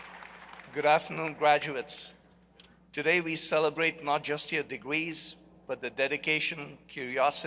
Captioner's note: applause